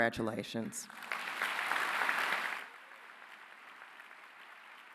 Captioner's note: applause